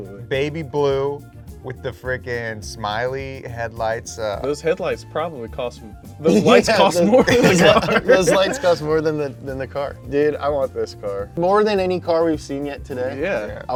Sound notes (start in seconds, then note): 6.3 all laughing; 6.4 chuckles